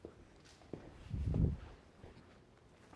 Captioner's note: none